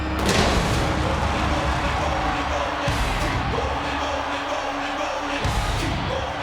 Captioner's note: intense music; fire exploding